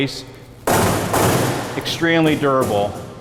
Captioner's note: loud banging